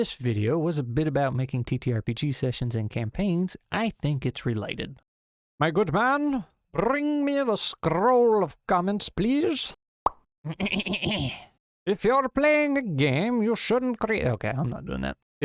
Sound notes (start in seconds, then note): 10.6 clear throat